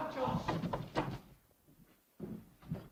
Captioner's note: door opens